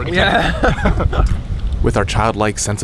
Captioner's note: both laugh